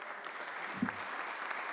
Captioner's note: applause